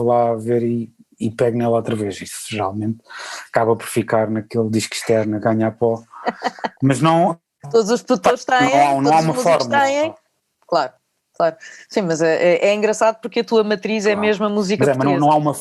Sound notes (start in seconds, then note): 4.4 laughs